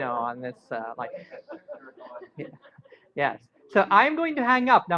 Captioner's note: laughter